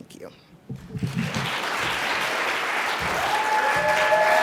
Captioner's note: audience applauds